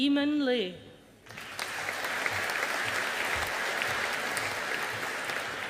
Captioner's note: audience applauding